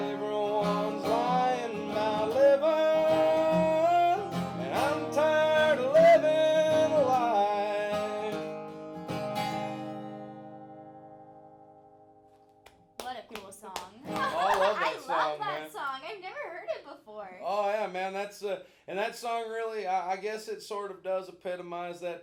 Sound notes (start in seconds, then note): 13.7 applauding